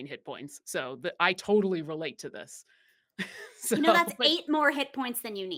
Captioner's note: laughs